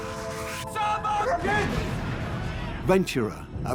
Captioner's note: shouts in German